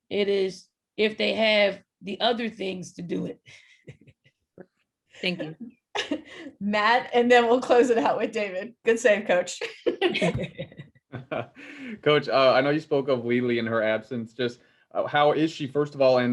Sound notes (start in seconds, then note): 4.2 laughing; 9.9 all laughing